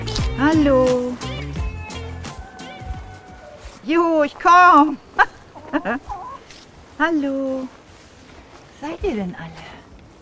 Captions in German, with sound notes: Hallo! (lacht) Juhu, ich komm! Hallo, wo seid ihr denn alle?